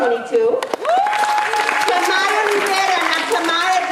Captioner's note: audience applauding